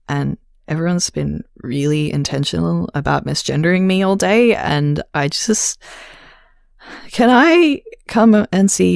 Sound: sigh

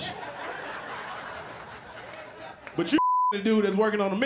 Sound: laughter

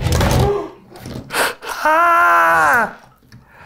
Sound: producer gasps

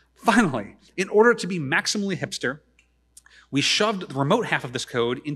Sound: none

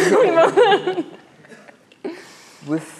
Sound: laughs

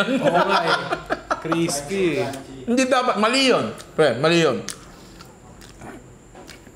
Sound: laughs; laughs

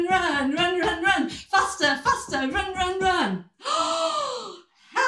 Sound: gasp

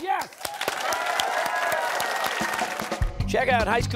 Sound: applause

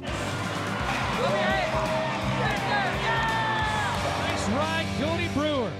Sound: crowd shouting

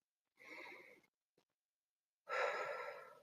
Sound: breathing

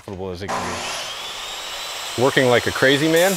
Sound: saw whining

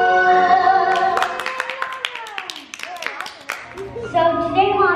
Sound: family cheers

